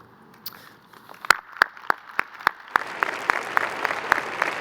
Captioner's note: crowd applauding